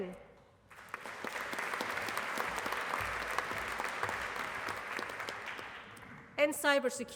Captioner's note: applause